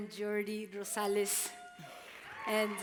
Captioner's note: applause